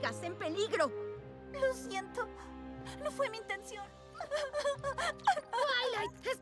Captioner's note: sobbing